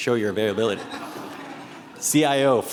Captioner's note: attendees laughing